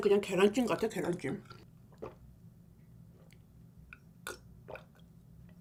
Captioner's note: gulping down white milk